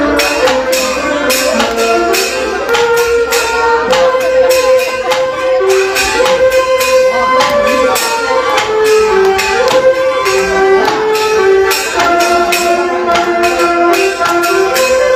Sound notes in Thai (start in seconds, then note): 5.9 ปรบมือ